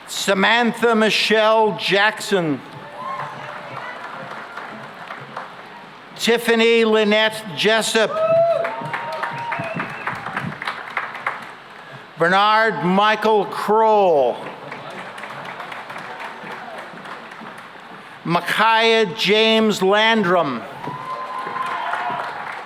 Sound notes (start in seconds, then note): 2.7 cheering and applause; 8.0 cheering and applause; 14.1 applause; 20.6 cheering and applause